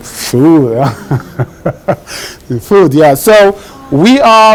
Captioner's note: laughs